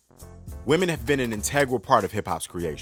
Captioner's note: voiceover